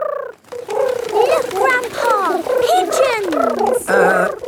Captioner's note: pigeons cooing